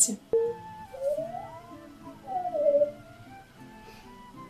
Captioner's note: sounds of delight